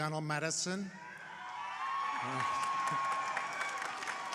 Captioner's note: crowd cheering